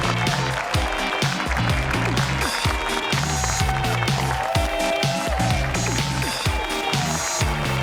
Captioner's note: audience cheering; energetic pop music